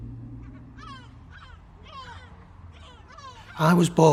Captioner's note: seagulls cawing